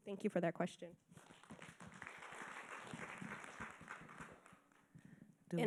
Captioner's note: audience applauding